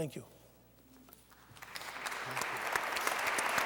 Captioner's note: applause